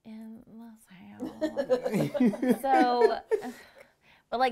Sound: laughing

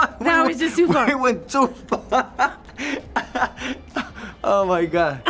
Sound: laughs

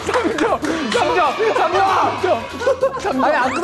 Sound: shouting hurrah!

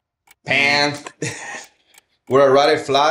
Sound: imitates buzzer

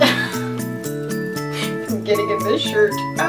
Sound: laughs

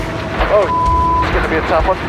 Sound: beep

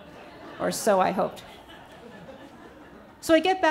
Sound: audience laughs

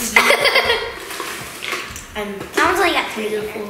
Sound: laughs

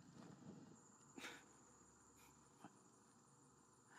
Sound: scoffs

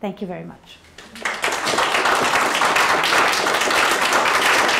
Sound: applause

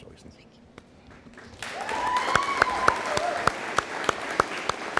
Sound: audience applauding

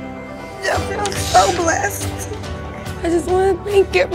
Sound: weeping

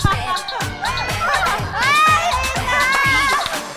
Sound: literally sobbing

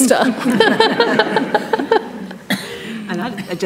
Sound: panellists laughing

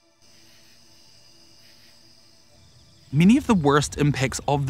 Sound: crickets chirping

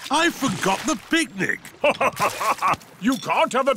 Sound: laughs

